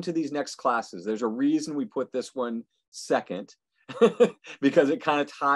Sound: laughing

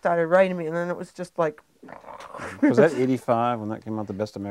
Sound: sighing

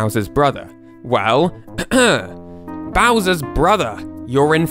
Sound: ahem

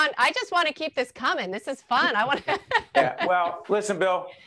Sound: laughing

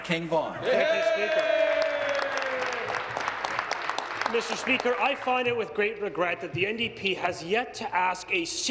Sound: applause

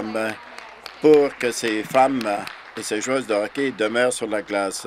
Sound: some Applause

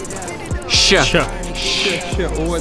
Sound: shsh

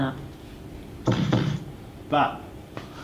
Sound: thudding noise

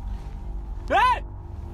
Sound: loud shout!

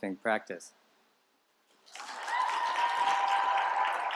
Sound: applause

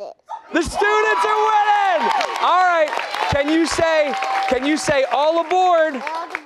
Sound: cheers and applause

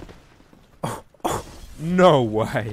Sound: laughs

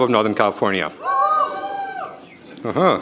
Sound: people cheering

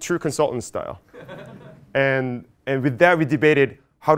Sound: laugh

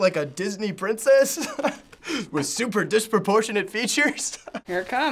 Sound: laughing

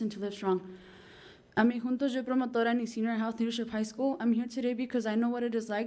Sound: foreign language

